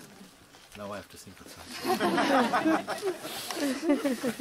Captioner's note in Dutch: gelach